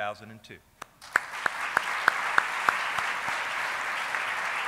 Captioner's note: applauding